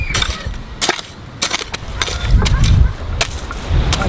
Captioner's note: digging sound